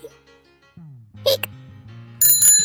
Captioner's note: Hic